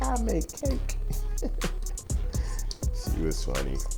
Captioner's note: laughing